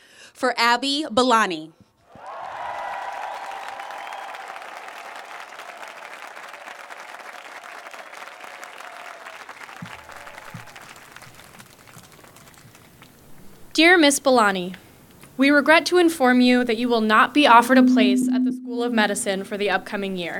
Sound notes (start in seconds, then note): 2.1 applause